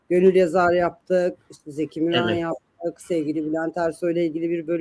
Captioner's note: boğazını temizler